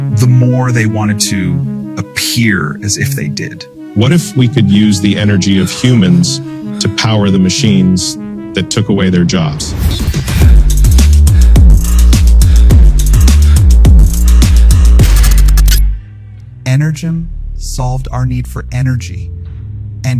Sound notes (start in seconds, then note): 10.2 people panting; 10.2 pulsing upbeat music